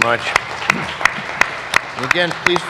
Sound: applause

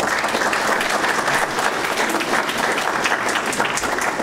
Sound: applause

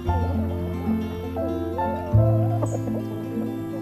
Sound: pigs snorting

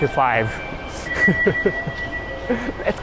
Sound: chuckles

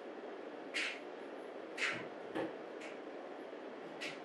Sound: clock ticking

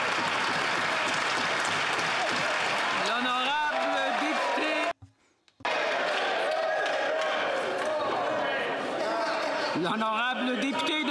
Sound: some Applause

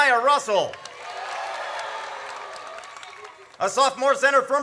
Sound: audience cheers

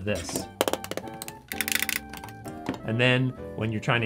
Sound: tapping sounds

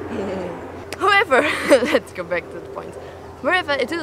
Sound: laughs

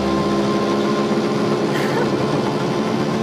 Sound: laughs

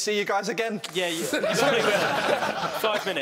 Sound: laughing

